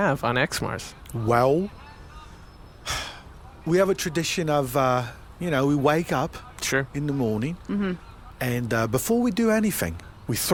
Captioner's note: sighs